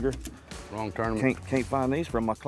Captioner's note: pat